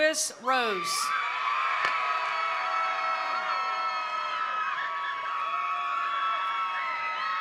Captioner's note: attendees cheering; attendees applauding